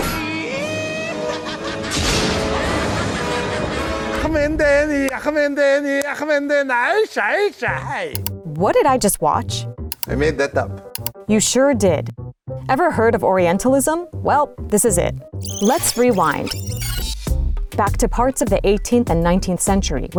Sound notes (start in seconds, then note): 0.6 laughs maniacally; 4.1 mimics war chant